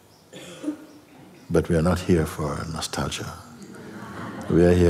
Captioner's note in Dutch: gelach